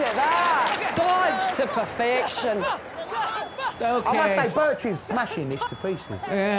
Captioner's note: bell dings